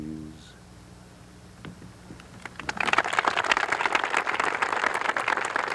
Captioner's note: audience applauds